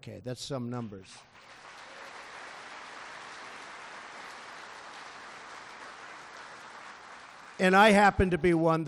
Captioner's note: applause